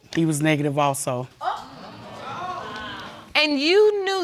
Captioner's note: audience exclaiming